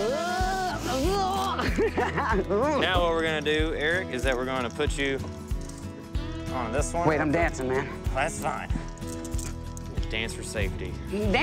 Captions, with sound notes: RUN, RUN, RUN. >> UGH. (LAUGHING) >> NOW WHAT WE'RE GONNA DO, ERICK, IS THAT WE'RE GONNA PUT YOU ON THIS ONE. >> WAIT, I'M DANCING MAN. >> WELL, THAT'S FINE. DANCE FOR SAFETY.